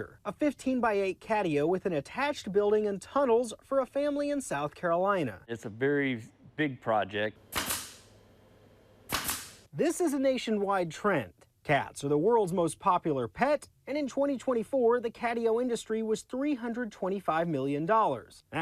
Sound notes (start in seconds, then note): 7.5 staple gun clicks